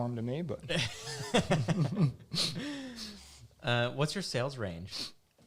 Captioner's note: laughing